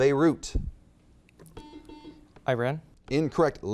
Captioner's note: buzzer beeps